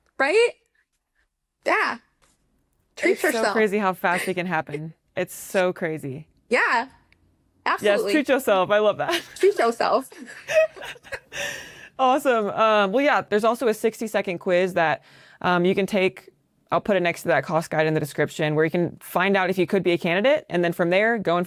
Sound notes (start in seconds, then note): 9.0 laughter; 11.6 gasps